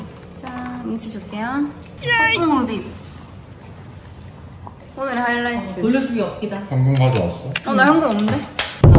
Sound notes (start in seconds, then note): 2.0 devouring